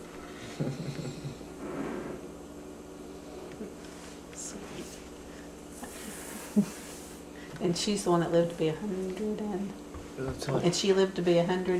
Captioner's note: laughter